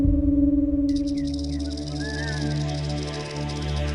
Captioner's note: rattling